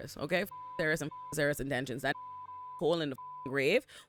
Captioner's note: beep